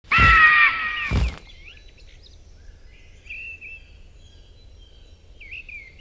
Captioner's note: eagle shrieking; birds chirping